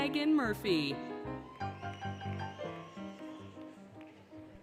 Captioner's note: applause, Cheering, Music